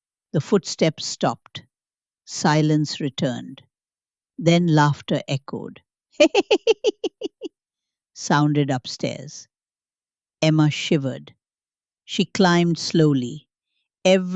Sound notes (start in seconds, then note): 6.2 giggles